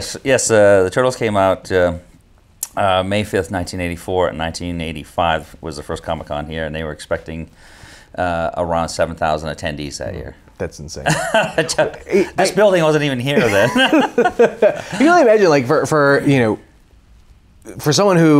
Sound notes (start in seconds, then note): 13.3 both laughing